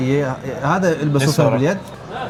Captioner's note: Arabic